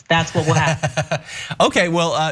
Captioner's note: laugh